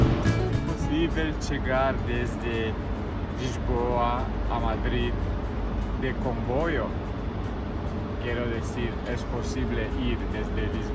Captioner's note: speaking Portuguese